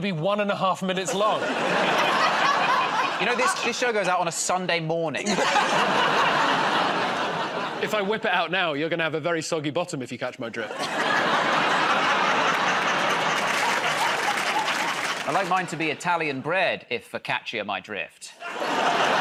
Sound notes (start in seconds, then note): 5.2 laughter; 10.6 laughter; 14.0 applause